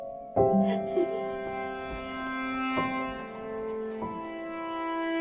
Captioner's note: Ruth laughing